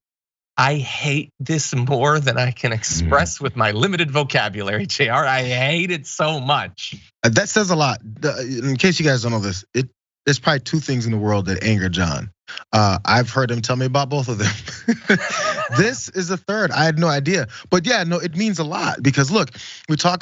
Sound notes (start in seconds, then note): 14.4 laugh